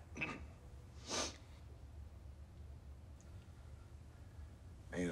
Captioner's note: sniffles